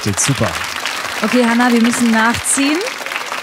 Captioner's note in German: Applaus